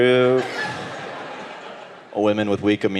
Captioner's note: audience laughing